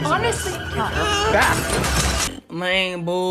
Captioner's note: glass shattering